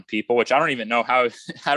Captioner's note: laughs